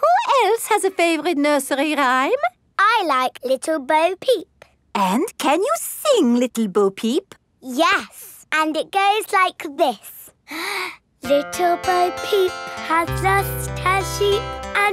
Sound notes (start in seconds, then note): 10.4 inhales